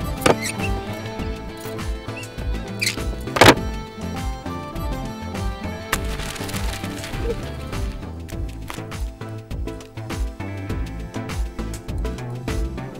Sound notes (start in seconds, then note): 0.2 Cupboard door sound; 3.3 Cupboard door bangs on wall; 5.8 Papers flying; 5.8 Drawer opens